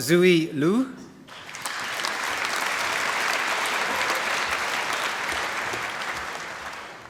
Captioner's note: applause